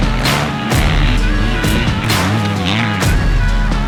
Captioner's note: engine revving